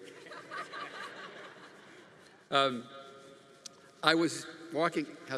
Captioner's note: congregation laughing